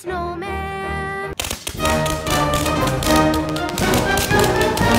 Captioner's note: fireworks explode